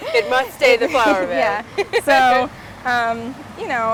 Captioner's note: laughs